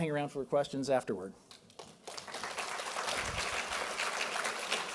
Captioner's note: applause